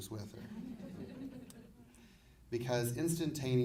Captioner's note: audience laughing